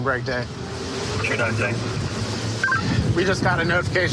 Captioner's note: radio communication